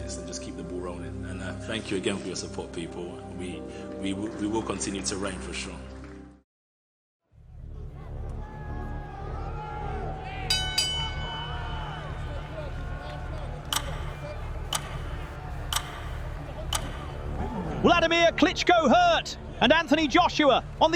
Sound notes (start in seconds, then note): 7.3 dramatic music; 13.5 ticking